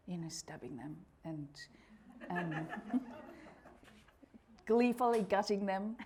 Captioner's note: audience laughing